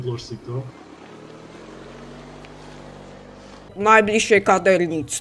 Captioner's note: engine sound